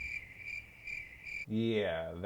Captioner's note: crickets